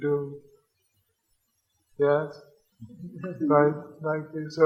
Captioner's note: audience laughs